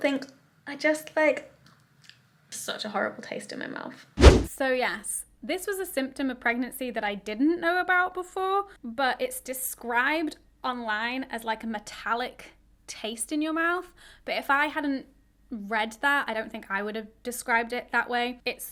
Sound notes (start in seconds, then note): 4.2 whooshing sound